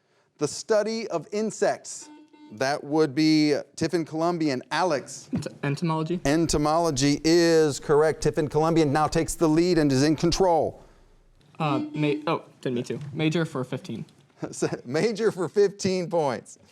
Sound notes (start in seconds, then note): 2.0 buzzer beeping